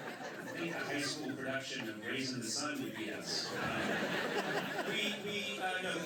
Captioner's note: laughter